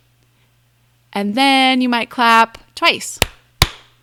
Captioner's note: claps